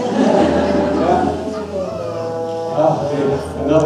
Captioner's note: laughter